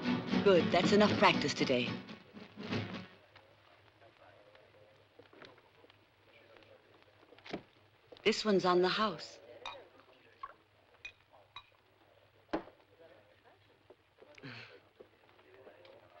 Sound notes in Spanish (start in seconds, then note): none